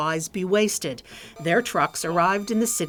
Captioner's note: forklift motor hums